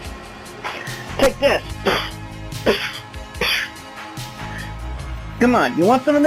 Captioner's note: punching sound effects